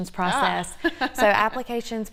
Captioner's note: laughs